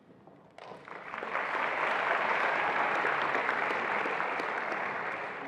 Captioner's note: attendees applauding